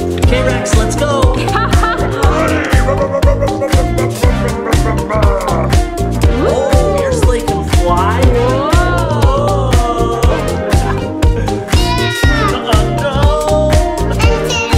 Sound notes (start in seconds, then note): 1.5 laughing; 4.0 making car engine noises; 10.4 upbeat music